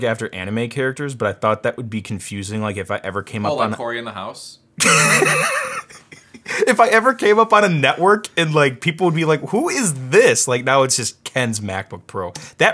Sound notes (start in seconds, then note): 4.8 laughing loudly